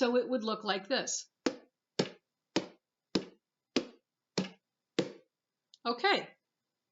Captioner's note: beats with alternating hands